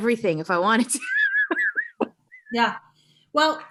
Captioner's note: chuckling